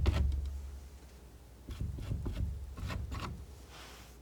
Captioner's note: scratching